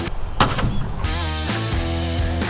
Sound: pipe thuds; upbeat music

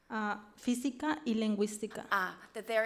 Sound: speaks foreign language

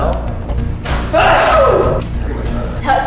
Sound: yell; electricity pops

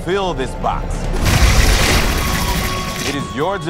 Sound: water gushing

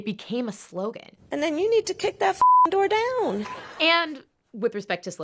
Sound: beep

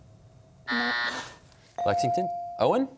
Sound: buzzer sounds

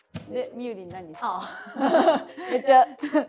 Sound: laughs

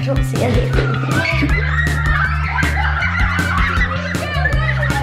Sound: screaming

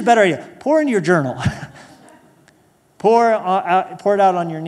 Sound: laughter

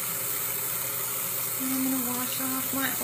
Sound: faucet running

